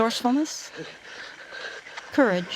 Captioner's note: strained breathing